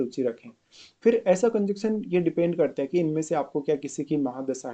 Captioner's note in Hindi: नाक से की जाने वाली आवाज़